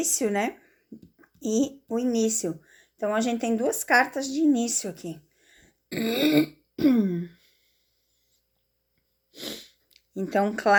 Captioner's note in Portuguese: limpando a garganta